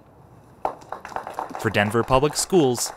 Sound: applause

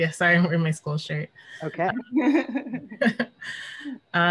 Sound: laughter

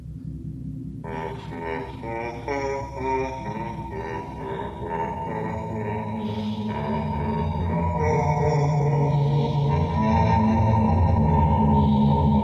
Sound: hums a creepy tune

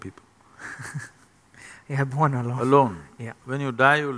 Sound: laughs

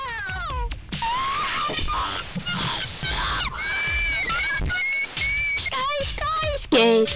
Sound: screaming

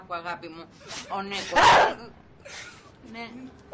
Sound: vicky grunts

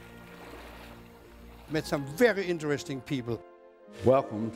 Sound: water splashing

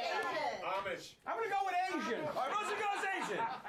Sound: audience shouts answers

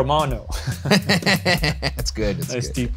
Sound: both laughing

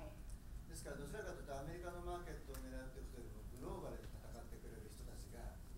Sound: speaking in foreign language

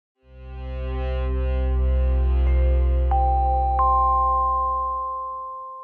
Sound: bell ringing; instrument tuning

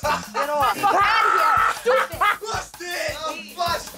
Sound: laughter

